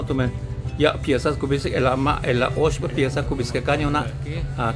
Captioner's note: speaking Mayan